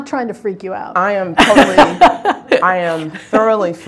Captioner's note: laughing